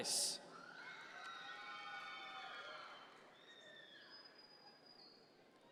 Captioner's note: audience members cheer